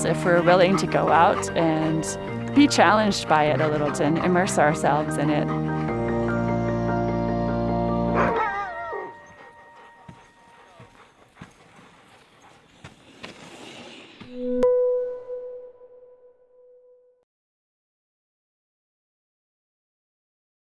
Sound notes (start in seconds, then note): 8.1 dog barks